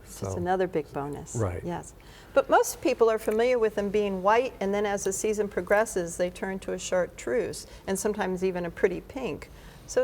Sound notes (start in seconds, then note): none